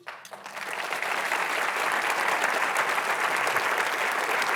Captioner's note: audience clapping